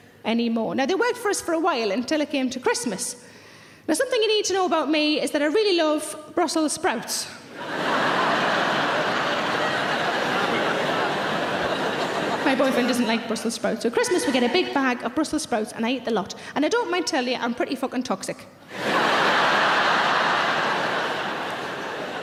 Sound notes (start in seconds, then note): 7.5 audience laughing; 18.7 audience laughing